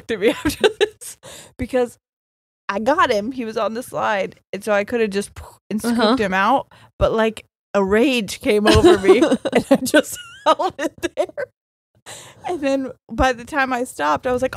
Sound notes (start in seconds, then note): 8.7 laughing; 10.3 laughs